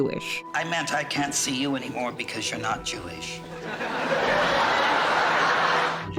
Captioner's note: aggressive laugh track